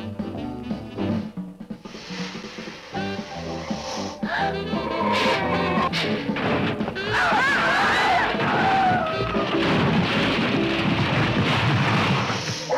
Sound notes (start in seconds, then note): 1.8 Gila monster hissing; 3.7 Liz gasps; 5.6 metal crunching; 7.1 couple screaming